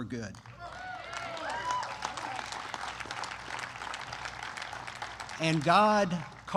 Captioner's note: applause